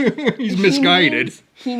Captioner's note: laughs